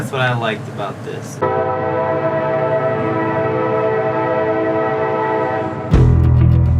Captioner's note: train sound